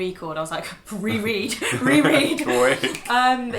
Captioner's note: laughing